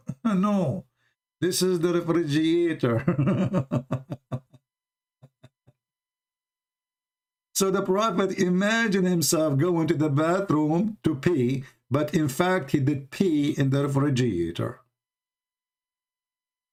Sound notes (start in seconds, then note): 2.9 Ketawa